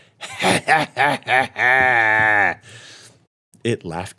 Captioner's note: laughing